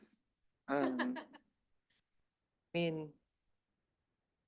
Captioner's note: laughs